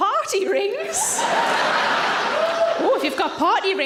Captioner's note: audience laughs